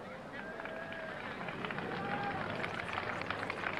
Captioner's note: applause